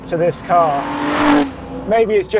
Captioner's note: engine revs